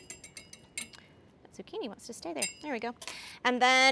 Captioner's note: metal clanging